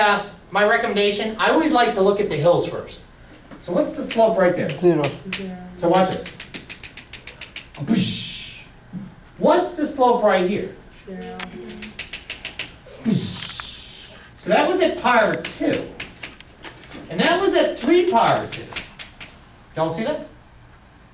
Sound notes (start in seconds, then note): 5.2 voiceover